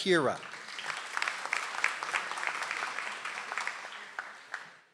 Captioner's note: audience applauds